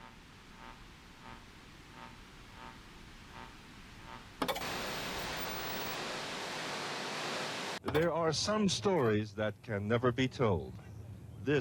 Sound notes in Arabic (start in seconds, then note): 0.0 طنين ثابت; 5.0 هدير ثابت